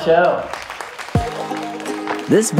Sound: audience applauding

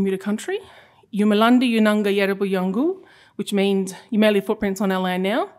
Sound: non-english speech

